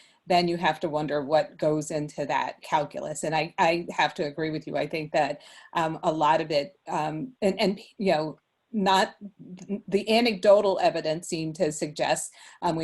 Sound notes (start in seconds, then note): none